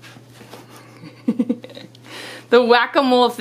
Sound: laughing

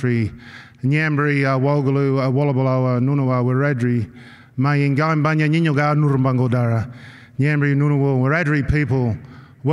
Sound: non-english speech

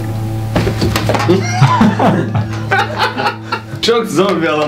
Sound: laughter

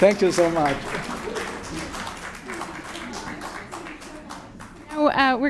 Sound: clapping

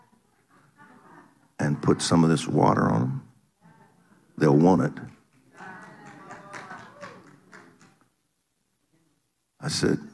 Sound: audience applauding

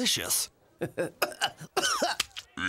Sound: <i>coughing</i>; <i>croaks</i>

